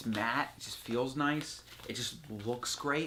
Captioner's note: rustling